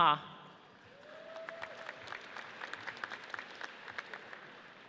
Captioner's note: audience cheers